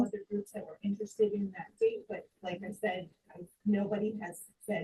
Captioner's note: colleagues conversing